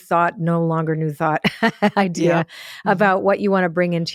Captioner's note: laughs